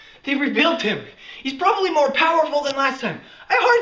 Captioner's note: none